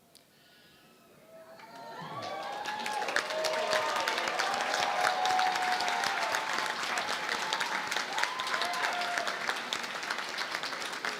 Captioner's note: cheering and Applause